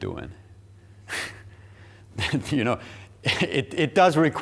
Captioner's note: chuckling